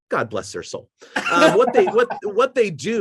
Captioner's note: laughing